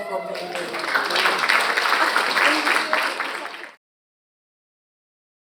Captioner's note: audience applauding